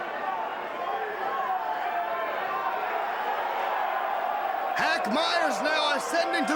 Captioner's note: crowd chatter